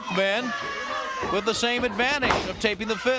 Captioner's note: crowd cheering